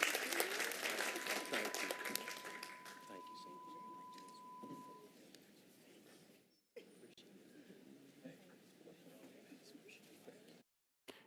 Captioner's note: applause